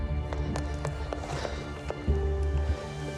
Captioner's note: Padre panting